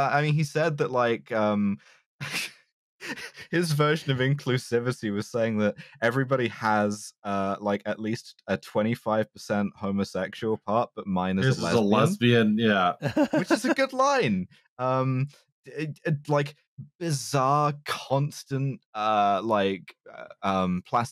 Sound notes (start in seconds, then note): 3.0 laughs; 11.3 laughs